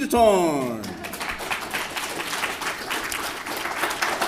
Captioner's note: applause